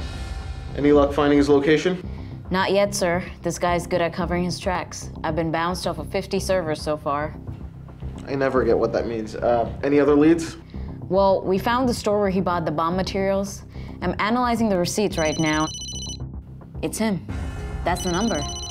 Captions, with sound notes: Any luck finding his location? Not yet sir, this guy's good at covering his tracks. I've been bounced off of 50 servers so far. I never get what that means, uh any other leads? Well, we found the store where he bought the bomb materials, I'm analyzing the receipts right now-- (phone rings) It's him - that's the number.